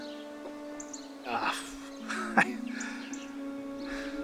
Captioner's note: Jerry stammering